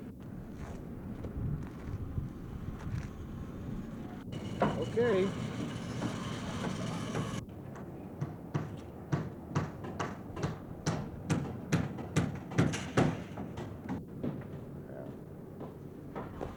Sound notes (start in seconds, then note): 2.2 voices, hammering